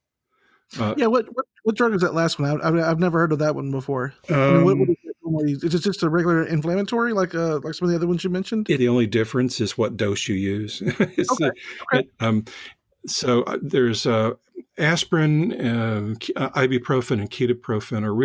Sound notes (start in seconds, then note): 4.3 gurgling; 10.3 laughs